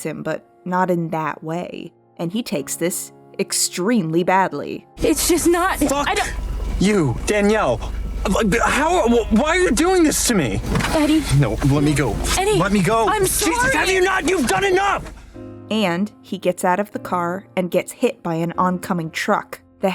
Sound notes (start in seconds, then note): 7.6 stammers